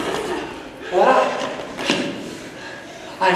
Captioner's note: heavily breathes